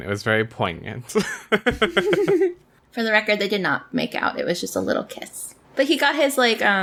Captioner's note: laughs